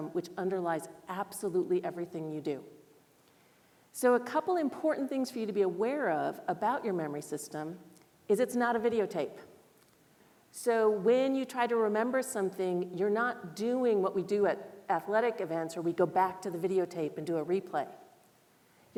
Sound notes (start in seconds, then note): none